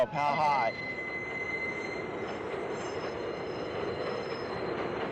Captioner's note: train noise